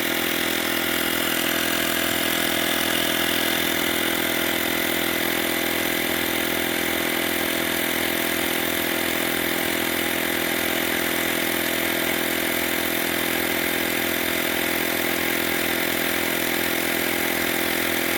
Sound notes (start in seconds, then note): 8.3 motor roar continues